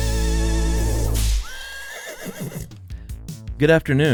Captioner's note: horse whinnies